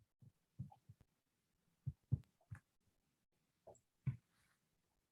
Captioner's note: silence